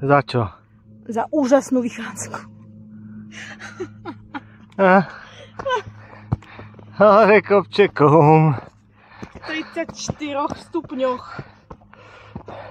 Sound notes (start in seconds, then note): 3.3 laughs